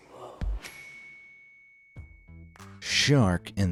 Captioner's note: audio dings